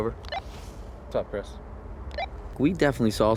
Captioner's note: walkie-talkie blips